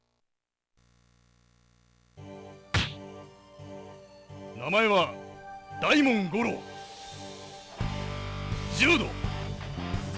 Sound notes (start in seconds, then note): none